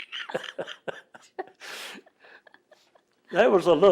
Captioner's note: laughs